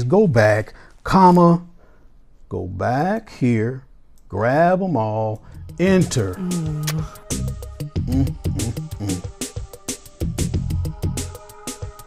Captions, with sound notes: go back, comma, go back here, grab 'em all, enter. [woman blows kiss] [funky music]